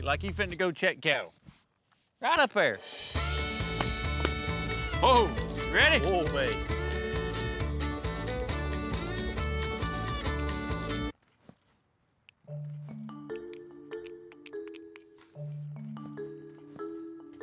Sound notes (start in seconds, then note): 10.3 music stops; 12.6 clicking sound